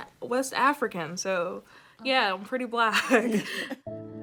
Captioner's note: chuckling